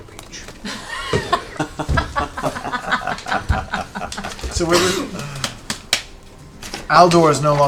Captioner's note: laughter